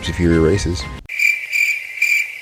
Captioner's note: crickets and blinking